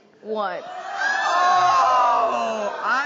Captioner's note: audience groaning loudly